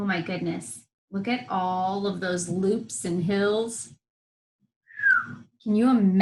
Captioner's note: whistles